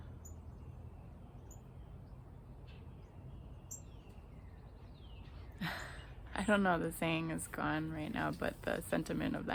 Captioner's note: laughs